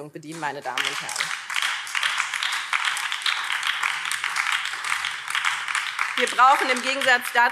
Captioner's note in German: Beifall BÜNDNIS 90/DIE GRÜNEN